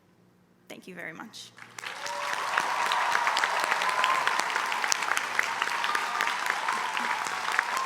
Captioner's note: applause